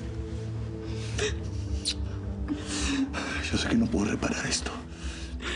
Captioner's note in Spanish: Solloza